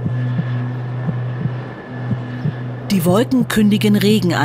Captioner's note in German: Töne des Herzklopfens